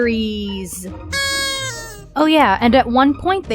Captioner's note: party horn